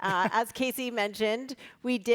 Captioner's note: laughing